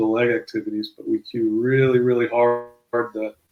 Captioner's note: murmurs